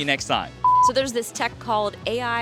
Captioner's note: beep